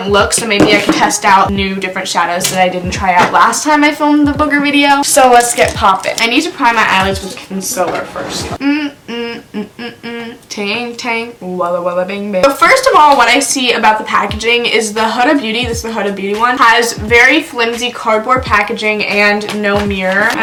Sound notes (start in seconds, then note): 8.5 humming